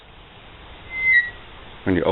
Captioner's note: loud Squeaking